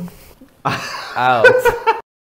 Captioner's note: laughs